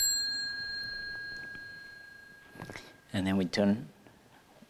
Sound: bell rings

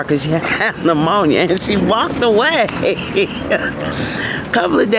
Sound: laughing

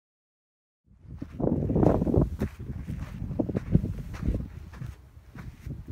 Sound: wind buffets microphone

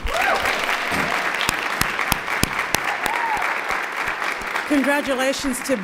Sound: applause

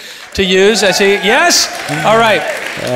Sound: applauding

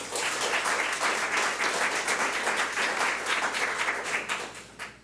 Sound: public applauding

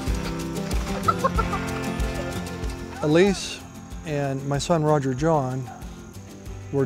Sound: kids giggling

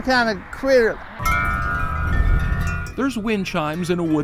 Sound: chimes ringing

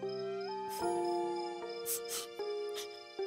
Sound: insects chirping; sniffling

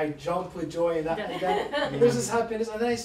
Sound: laughter

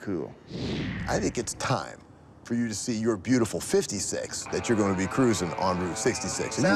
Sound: none

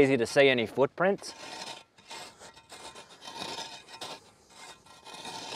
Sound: shovel scraping

